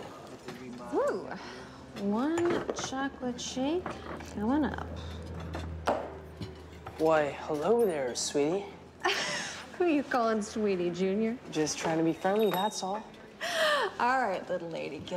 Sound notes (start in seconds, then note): 8.7 laughs